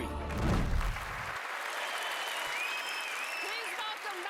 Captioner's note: audience clapping